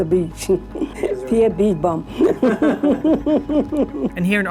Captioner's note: laughs